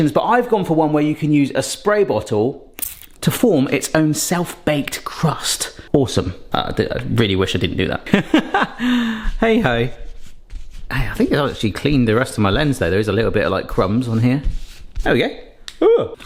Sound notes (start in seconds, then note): 2.8 water spritzes; 8.2 laughs